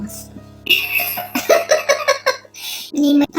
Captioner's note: laughs